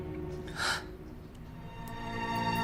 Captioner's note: crying